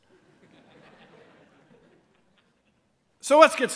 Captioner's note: laughter